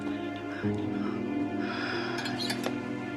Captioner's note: sigh